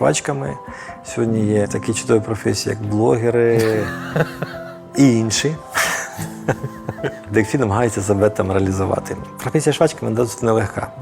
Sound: laughs

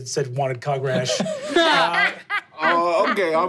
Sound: laughing

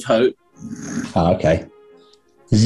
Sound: sniggering

